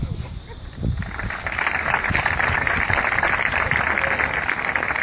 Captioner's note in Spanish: Aplausos